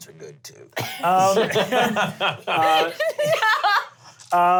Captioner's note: laughter